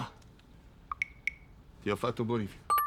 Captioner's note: electronic bip